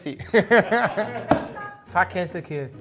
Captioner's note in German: Lachen